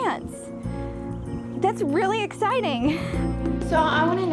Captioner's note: laughs